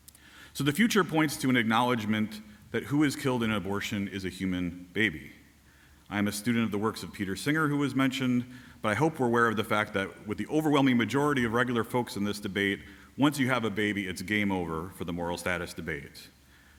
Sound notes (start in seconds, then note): none